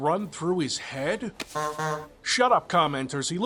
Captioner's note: honk-honk